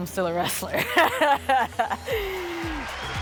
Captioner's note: laughs